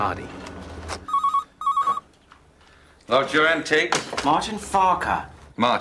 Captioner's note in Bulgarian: Телефон звъни